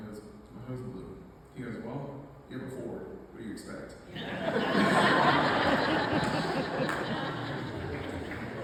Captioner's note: loud laughter